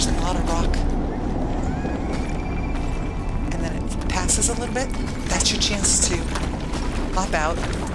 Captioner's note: none